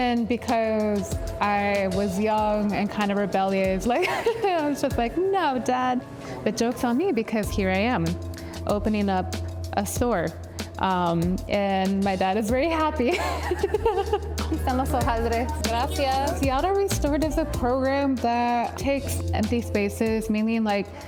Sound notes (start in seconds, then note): 13.0 laughs